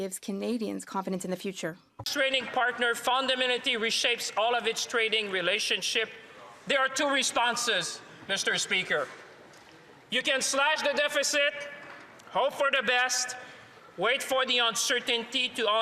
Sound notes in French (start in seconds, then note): 4.3 voix de l'interprète